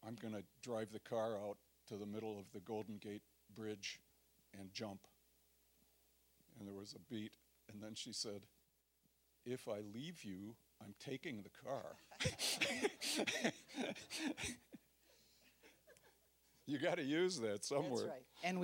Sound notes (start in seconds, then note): 12.1 audience laughing